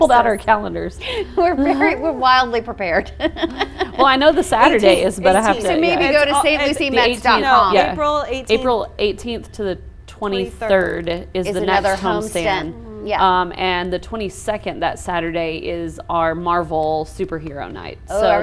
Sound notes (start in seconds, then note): 2.9 laughs